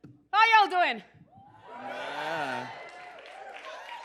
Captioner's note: cheers and applause